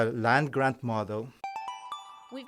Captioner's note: chime